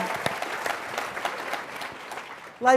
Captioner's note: applause